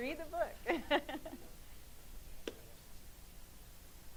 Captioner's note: laughing